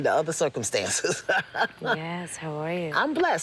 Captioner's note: laughs